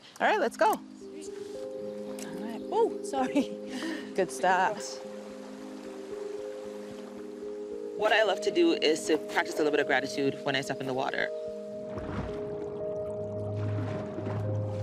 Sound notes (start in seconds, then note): 1.6 calm music; 5.1 sound of water; 11.9 soft music